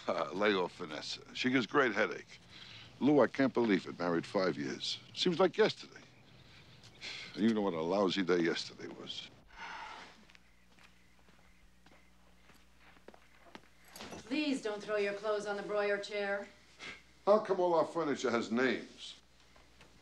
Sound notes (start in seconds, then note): 9.5 sighing; 16.6 scoffing